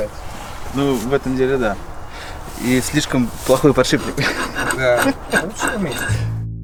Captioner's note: laughs